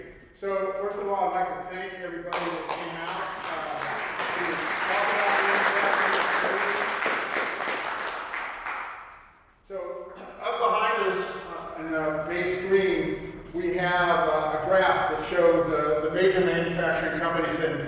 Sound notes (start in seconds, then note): 4.0 applause